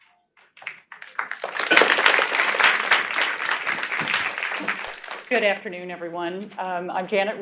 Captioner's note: applause